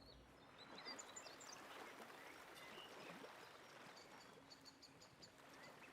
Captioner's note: birds chirping and water trickling